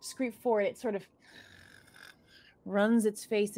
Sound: gasping; chittering

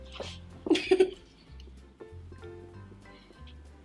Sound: laughing

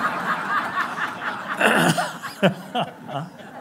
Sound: laughing

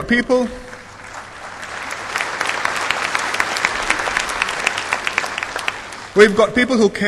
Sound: applause

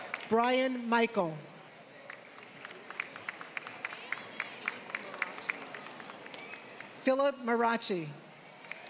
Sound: applause

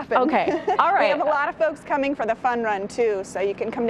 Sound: laughter

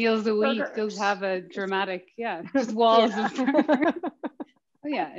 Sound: laughs

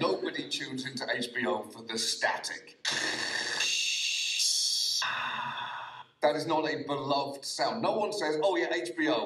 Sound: mimicking static noise

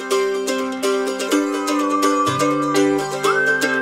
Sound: whistling

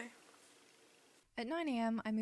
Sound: voiceover

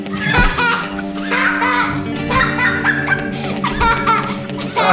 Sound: crazy laughs

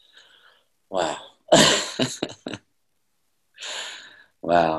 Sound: laughs

